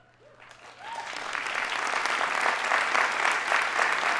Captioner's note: audience applauding